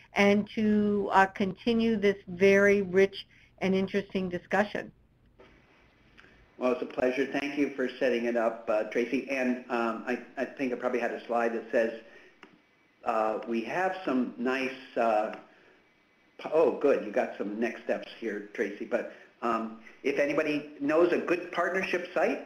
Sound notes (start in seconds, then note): 6.2 voiceover